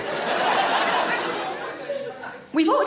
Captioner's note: audience laughs